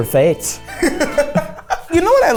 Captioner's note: laughs